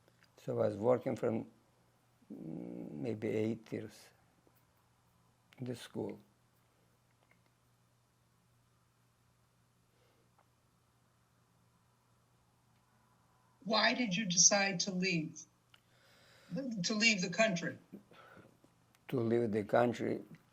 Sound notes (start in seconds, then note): 6.2 pauses 6 seconds